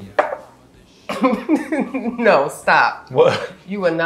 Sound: laughs

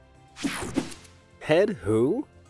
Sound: logo snaps

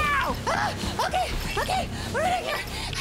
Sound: breathless

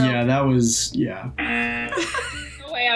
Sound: buzzer; laughs

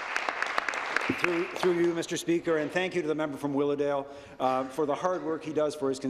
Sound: applause

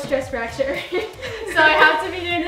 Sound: giggles

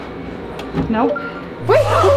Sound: door beeping; happy music

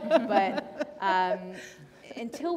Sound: laughter

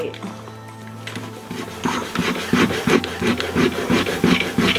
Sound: eraser rubbing

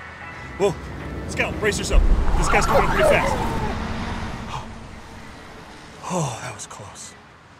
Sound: dog whimpers

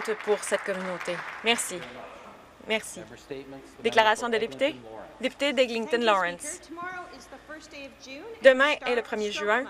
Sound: some Applause

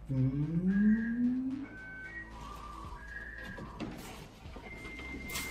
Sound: tech noises

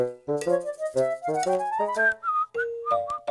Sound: innocent whistling

